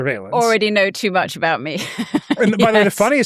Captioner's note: chuckles